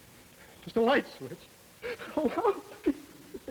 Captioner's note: sobbing